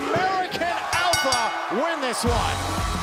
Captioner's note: crowd cheering